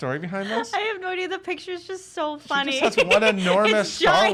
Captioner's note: laughs